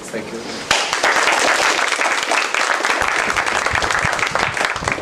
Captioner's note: applause